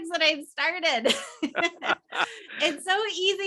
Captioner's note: both laughing